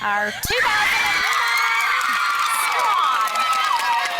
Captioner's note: girls scream